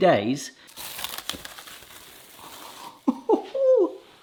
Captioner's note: plastic wrap rustling; laughs